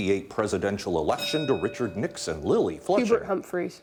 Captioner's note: bell dinging